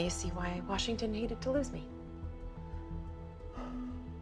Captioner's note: oliver sighs